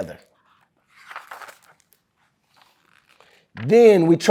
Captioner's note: pages rustling